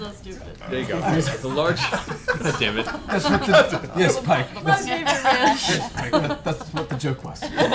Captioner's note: laughter